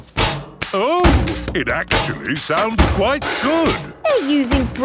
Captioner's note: rhythmic clanging